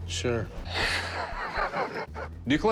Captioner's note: laughs